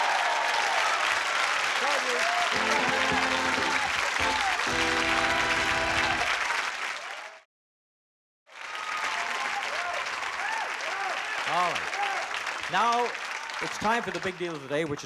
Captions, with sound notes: Congratulations. (upbeat music) (cheers and applause) All right. Now it's time for the big deal of the day, which is worth $8,289.